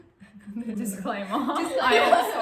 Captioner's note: laughs